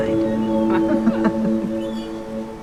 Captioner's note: both chuckle